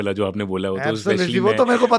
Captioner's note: laughs